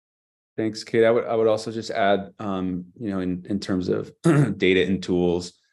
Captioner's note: clears throat